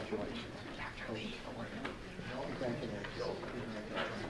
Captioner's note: murmuring